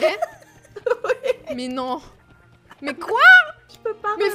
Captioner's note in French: rire